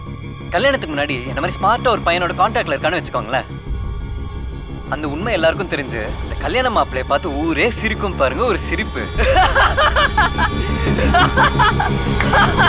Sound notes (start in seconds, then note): 9.1 scornful laughter